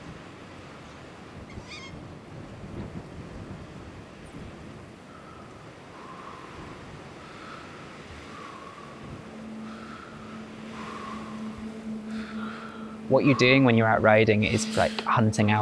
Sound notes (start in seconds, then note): 8.0 breathing heavily